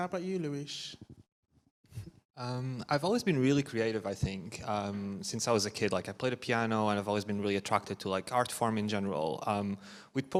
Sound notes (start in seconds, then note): none